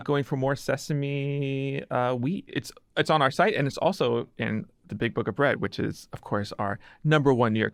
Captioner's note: none